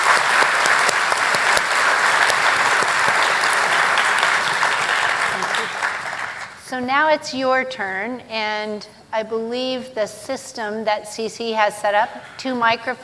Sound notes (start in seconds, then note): 2.4 applause